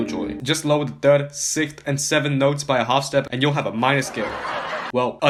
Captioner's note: laugh track